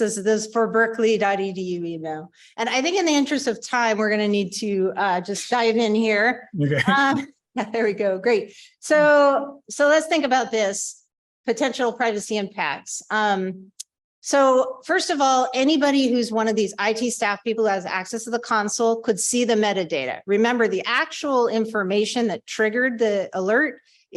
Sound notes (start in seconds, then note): 6.6 laughter